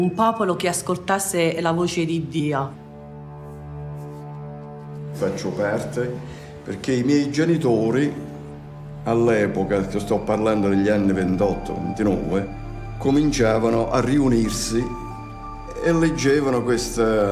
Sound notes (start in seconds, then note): 5.5 speaks in foreign language